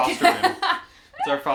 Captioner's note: laughs